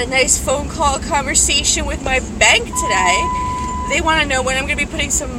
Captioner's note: vehicle screams in alarm